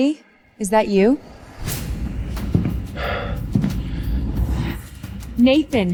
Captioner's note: door slams; sighs